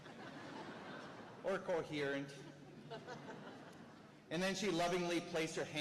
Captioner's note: laughter